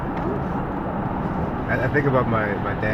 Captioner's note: car engine continues humming